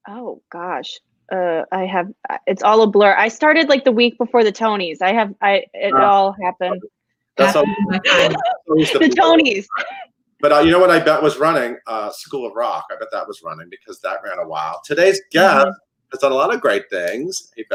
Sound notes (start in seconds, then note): 5.1 stutters